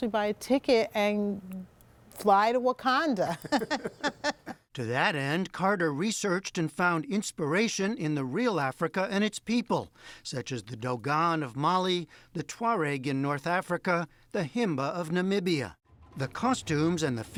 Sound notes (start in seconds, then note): 3.3 laughter